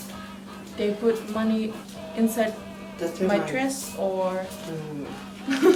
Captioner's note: laughs